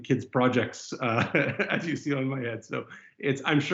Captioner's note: laughs